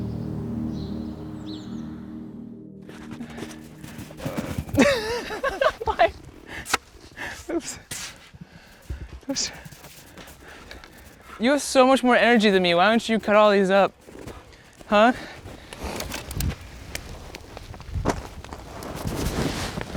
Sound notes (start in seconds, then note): 2.8 snow crunching; 4.6 laughing